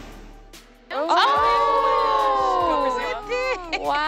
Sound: people gasping

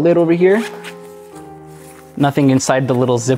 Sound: zipper scrapes

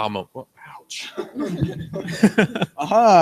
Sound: several people laugh

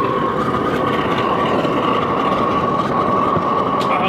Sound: fire roaring

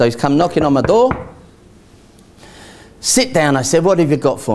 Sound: knocks

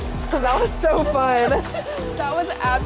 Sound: both laugh

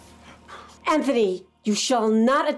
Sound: Anthony gasps

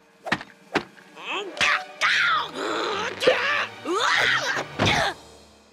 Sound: groaning

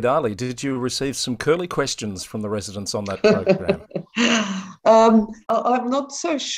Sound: laughs

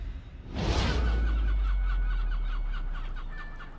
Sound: seagulls cawing

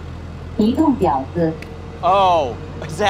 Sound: car speaking Mandarin

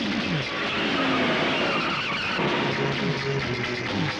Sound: tires squealing

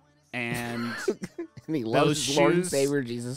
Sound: laughing

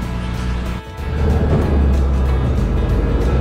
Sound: express boat's engine heating up

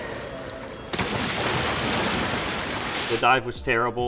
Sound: splashing

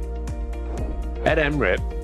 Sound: air whooshing

